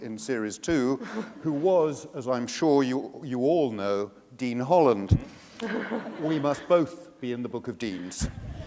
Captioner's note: laughter